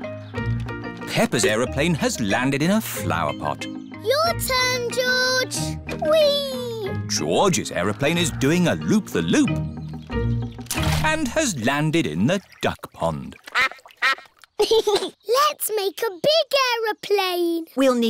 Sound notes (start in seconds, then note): 13.4 quacking; 14.5 giggles